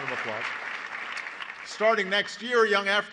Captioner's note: applause